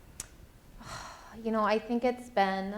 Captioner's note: sighs